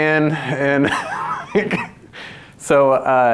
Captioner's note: laughs